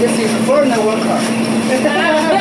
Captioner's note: laughter